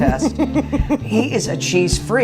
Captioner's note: laughing